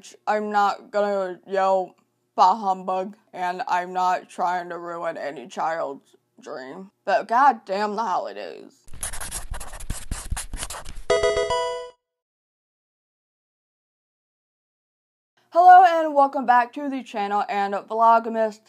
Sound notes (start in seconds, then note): 8.8 marker scratching; 11.1 electronic video game chime